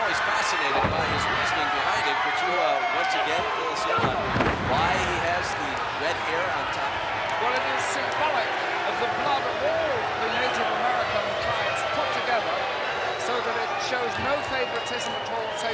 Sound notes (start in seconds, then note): 3.8 body thudding; 4.0 blows thudding